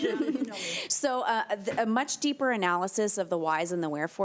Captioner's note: chuckling